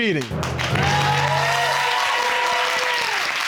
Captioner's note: audience clapping and cheering